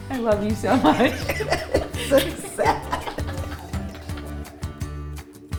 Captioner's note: laughing